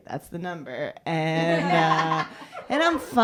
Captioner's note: laughter